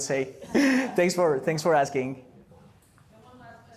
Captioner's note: laughter